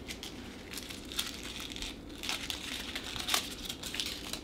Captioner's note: paper crumpling